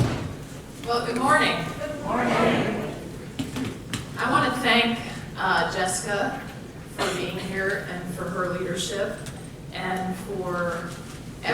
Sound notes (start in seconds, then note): 2.0 voiceover